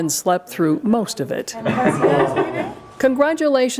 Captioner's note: laughs